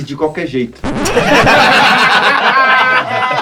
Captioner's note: risos